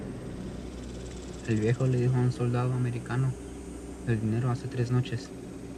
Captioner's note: speaking in foreign language